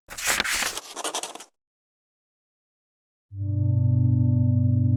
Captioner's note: page flips; unsettling music